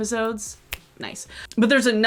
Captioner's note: snaps